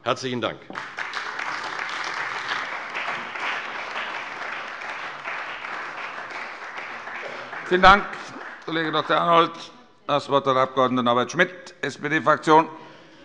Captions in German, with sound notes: - Herzlichen Dank. [Beifall bei der CDU und dem BÜNDNIS 90/DIE GRÜNEN] Herr Kollege Dr. Arnold, vielen Dank. - Das Wort erhält Herr Abg. Norbert Schmitt für die SPD-Fraktion.